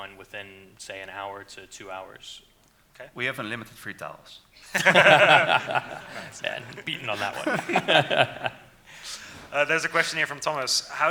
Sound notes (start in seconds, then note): 4.6 laughing; 7.6 laughs